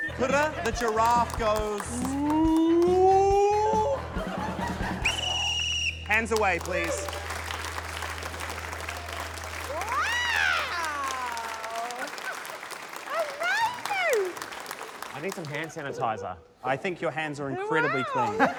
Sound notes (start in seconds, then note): 3.5 laughter; 5.0 whistle trills